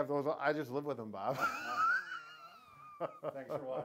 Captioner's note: laughing